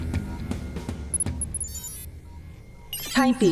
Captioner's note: beeps; robot voice